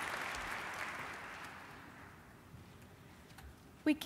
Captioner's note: applause